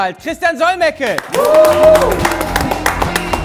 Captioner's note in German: Jubel, Applaus